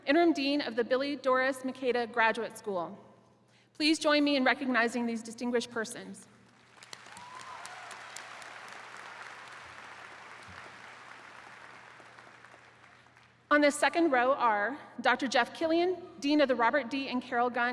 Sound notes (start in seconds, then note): 6.9 attendees cheering